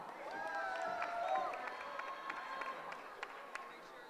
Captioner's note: cheering